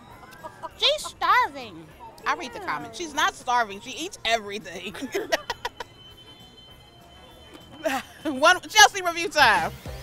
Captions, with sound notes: She's starving." I read the comment. She's not starving, she eats everything. (laughs) It's Chelsea review time.